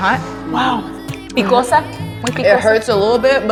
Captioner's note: speaking spanish